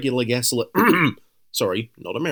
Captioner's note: ahem